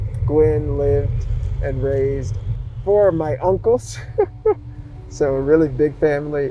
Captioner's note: laughs